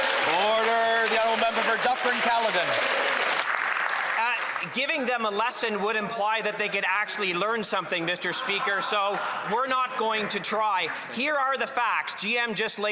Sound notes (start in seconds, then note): 1.5 applause